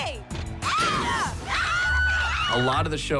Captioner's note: screaming